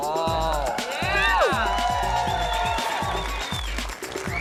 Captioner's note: cheering